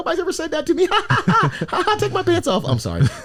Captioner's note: laughs